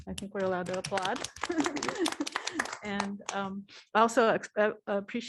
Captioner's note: applause; laughter